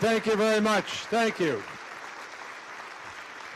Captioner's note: cheers